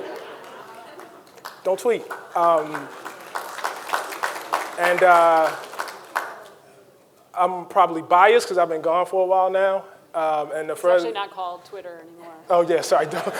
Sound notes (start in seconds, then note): 2.6 audience applauding